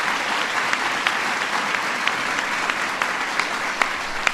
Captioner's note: applause